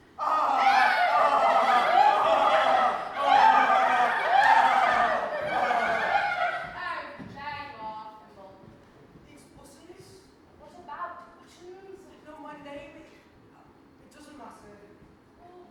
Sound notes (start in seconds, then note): 0.3 horrible clashing laughing again; 10.9 mimicking his accent